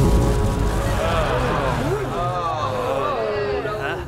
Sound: groaning

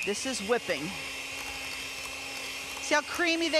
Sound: mixer mixing

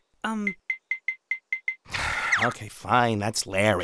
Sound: sigh

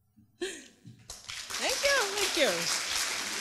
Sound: applause

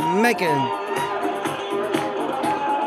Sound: whooping

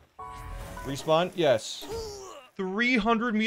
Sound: groaning of death

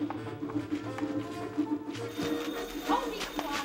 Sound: telephone ring

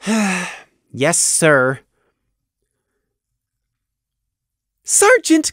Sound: sigh

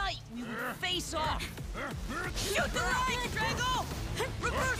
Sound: Drago grunting

